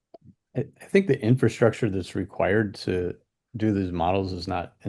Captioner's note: clears throat